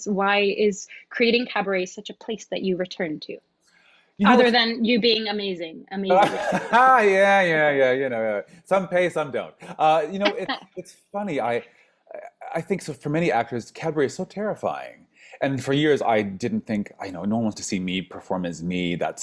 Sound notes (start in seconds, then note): 6.1 laughs